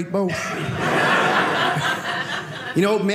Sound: audience laughing

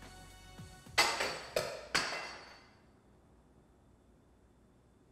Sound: unitasker clatters

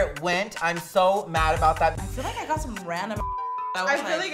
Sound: beep

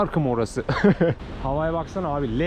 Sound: laughter

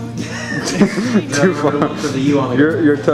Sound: laughing

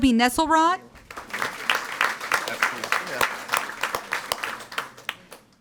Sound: audience applauding

